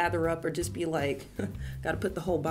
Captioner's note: laughs